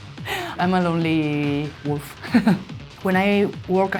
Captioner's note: laughs